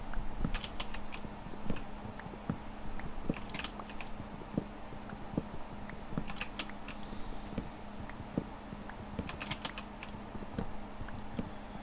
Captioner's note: typing